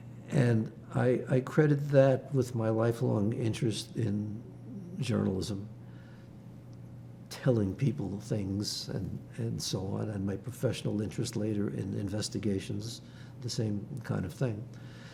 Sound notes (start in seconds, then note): none